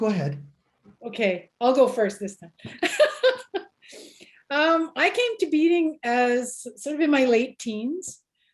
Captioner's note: laughs